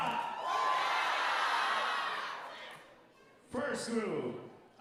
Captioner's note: audience cheering